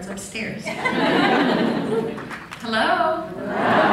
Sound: laughs

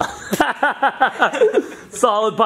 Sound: laughs

